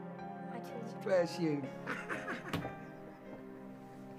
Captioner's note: laughing